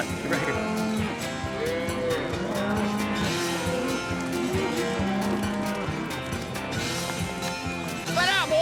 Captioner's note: mooing